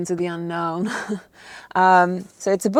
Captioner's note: laughs softly